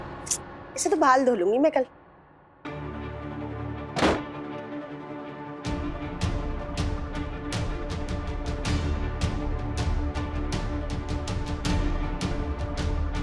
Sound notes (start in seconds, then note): 3.9 door closes; 6.1 pensive music playing